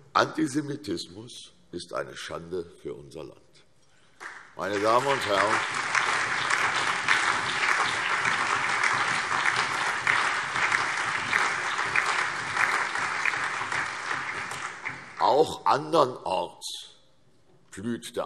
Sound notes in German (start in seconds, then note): 4.1 Allgemeiner Beifall